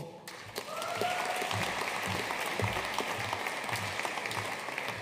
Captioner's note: audience cheering and applauding